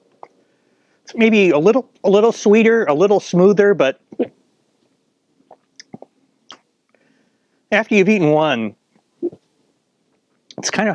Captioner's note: hiccup